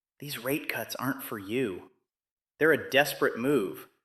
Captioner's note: whispers